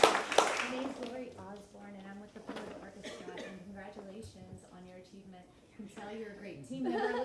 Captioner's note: applause